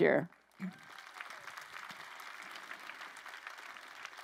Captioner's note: crowd applauding